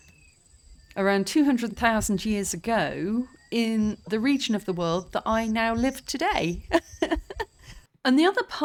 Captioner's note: laughing